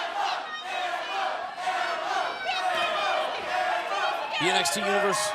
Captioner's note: crowd cheering